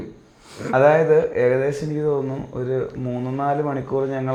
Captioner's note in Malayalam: ചീറ്റുന്നു